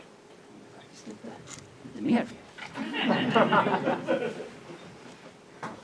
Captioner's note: laughter